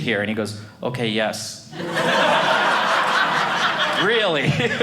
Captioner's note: audience laughing